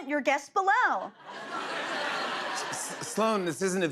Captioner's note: laughter